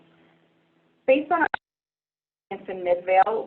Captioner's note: skip in Audio